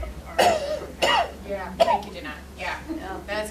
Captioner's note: coughing